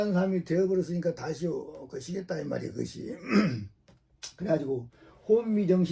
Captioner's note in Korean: 목을 가다듬음